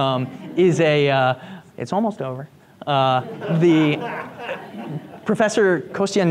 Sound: group laughs; group laughs

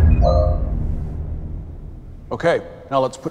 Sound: software noise

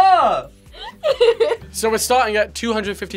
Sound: laughs

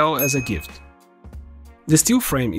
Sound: bell Sound

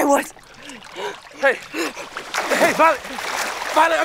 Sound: water splashing

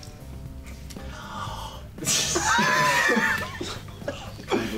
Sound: deep breath

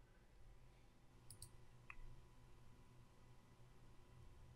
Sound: clicking

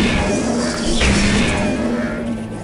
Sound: gunfire

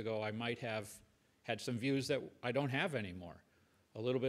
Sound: none

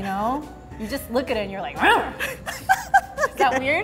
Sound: laughs; growls

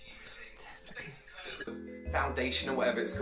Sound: possessed Whisper

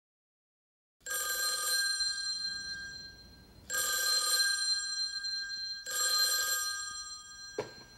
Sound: telephone rings

